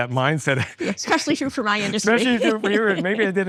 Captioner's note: laughs